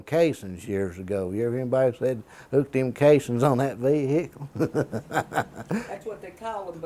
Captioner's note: laughter